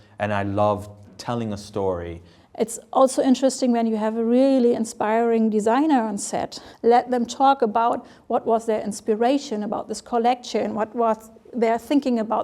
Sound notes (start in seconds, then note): none